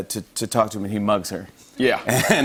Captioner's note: laughter